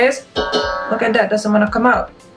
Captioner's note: clangs